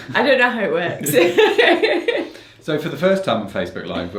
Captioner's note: laughs